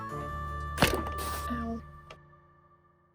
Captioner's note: thud